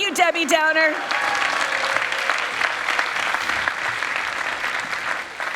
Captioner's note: people clapping